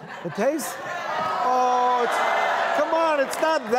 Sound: laughter; crowd groaning

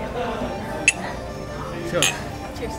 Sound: glasses clink

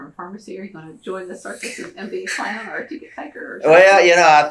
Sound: laughter

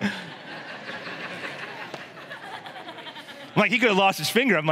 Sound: chuckles; congregation laughs

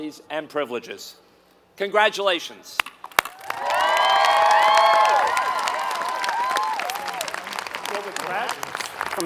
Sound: applause

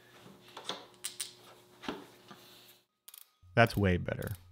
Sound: machine clicking

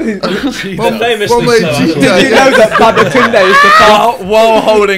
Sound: students murmurs

